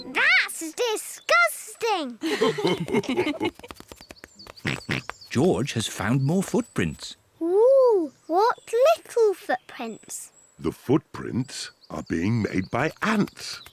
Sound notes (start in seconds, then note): 2.2 mummy and daddy pig laugh; 4.4 oinks